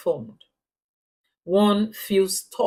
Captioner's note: paause